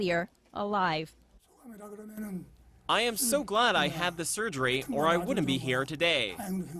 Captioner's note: Korean